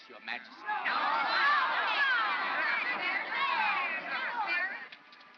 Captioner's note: crowd chatters angrily